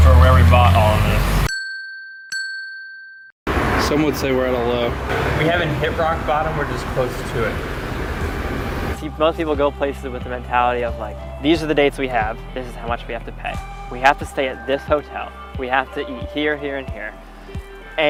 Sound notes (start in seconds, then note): 1.4 bells ding